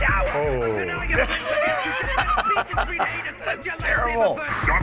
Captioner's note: laughter